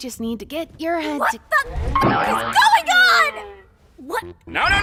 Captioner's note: boing!